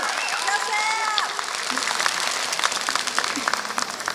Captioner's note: applause